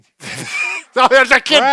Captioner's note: laughter